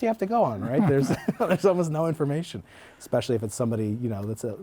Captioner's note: laughter